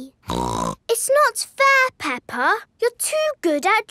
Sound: snorts

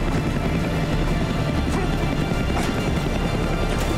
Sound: grunting

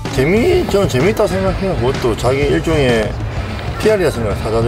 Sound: speaking in foreign language

